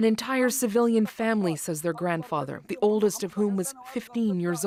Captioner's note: speaking alternate language